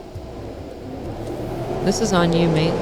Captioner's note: wind and rain again